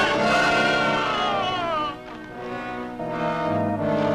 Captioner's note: climber screams